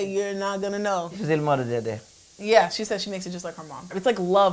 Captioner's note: speaks in portuguese